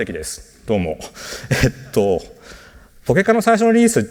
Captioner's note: chuckles